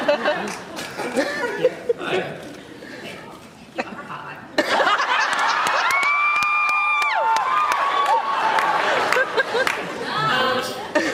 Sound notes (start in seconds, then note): 4.6 laughs, cheers